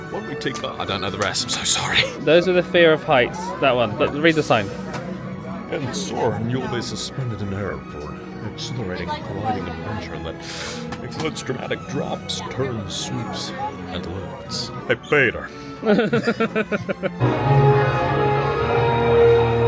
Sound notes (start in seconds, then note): 10.4 inhales sharply; 15.8 laughs; 17.2 epic music